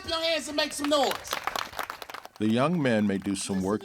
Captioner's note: boys clap